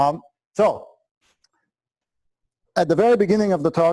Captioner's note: pause